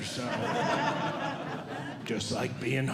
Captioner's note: audience Laughing